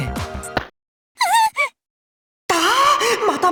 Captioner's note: panicked gasp